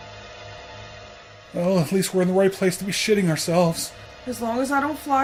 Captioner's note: scared